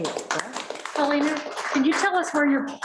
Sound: applause

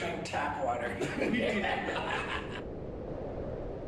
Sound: laughing

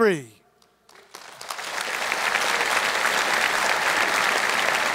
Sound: audience applauds

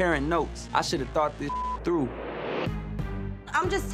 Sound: beep

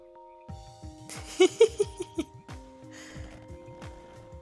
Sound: giggles

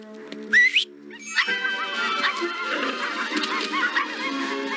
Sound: whistles; yipping

